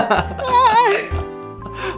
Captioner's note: cries